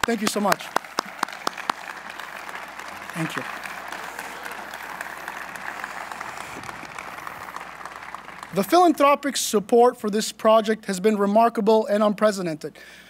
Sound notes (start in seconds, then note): 2.3 applause; 4.9 applause